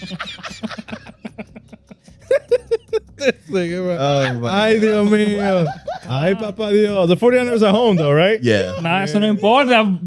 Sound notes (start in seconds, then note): 1.1 laughing